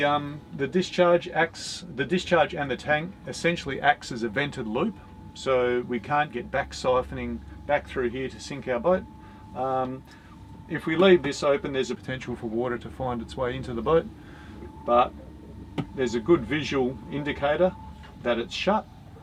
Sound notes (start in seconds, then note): none